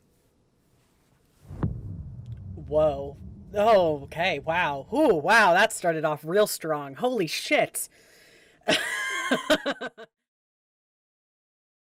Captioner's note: laughs